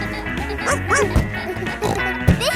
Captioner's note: snorts; barks